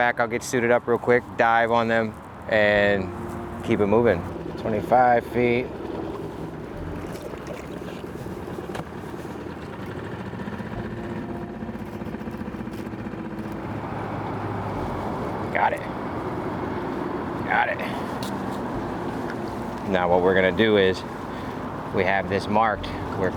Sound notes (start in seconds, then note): 6.0 gentle music; 6.0 motor droning